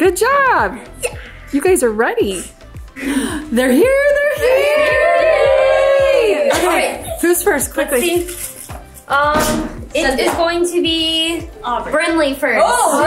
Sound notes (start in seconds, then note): 2.9 gasps; 3.8 everyone cheers; 12.8 everyone cheers